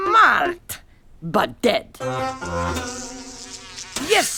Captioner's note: flys buzzing